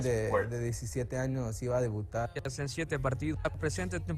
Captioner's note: athlete speaking in Spanish; speaking in Spanish